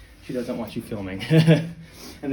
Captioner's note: laugh